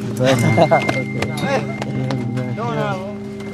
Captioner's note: bubble of voices